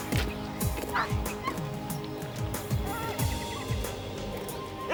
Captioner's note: dog barking